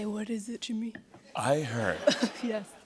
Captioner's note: laughter